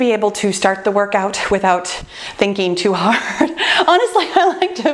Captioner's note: laughs